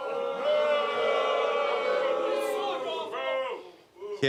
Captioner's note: audience boos